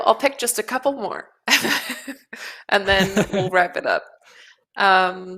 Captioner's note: laughs